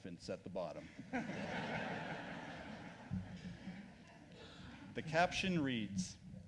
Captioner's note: laughs